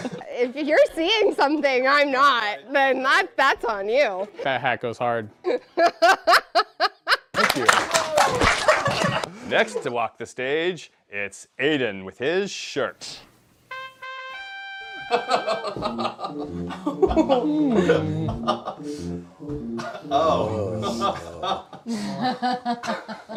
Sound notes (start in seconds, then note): 5.5 laugh; 13.6 trumpets